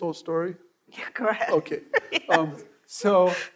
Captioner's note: laughing